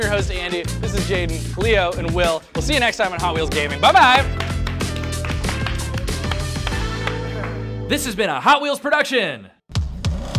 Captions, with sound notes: I'm your host, Andy, this is Jaden, Leo, and Will, we'll see you next time on Hot Wheels Gaming, buh-bye! (clapping) - This has been a Hot Wheels Production.